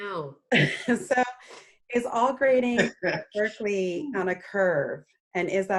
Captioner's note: laughs